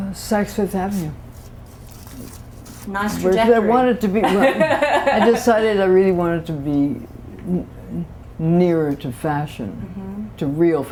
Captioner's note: laughter